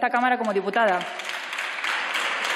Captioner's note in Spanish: Aplausos